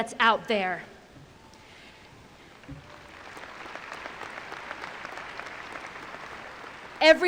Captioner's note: applause